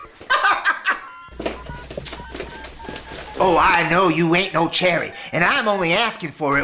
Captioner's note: laughing